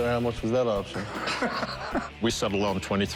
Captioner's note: laughter